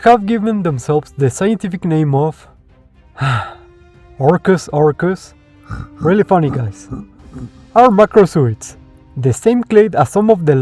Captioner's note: sigh